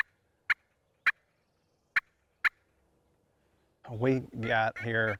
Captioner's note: turkey call clucking